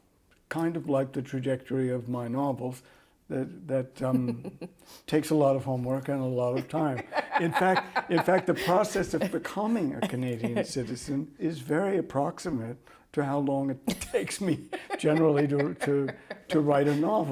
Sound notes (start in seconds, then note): 8.2 laughter